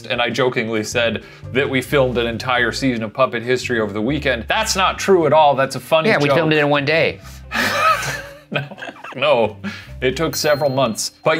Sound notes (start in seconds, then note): 7.5 laughing